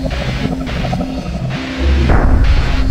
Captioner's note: demonic growls